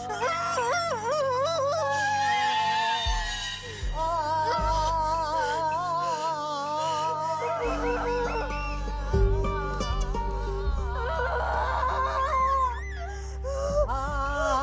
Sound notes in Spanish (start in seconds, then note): 0.3 Gritos más fuertes; 4.3 La partera sigue vocalizando; 11.2 Quejidos